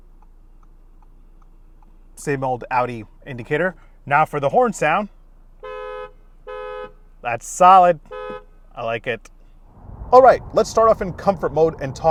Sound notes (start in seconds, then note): 0.1 indicator ticking; 5.6 horn beeping; 8.1 horn beeping